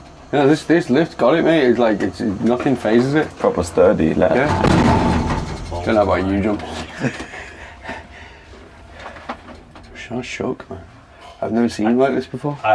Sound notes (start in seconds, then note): 4.3 loud thumping sound; 6.8 soft laughter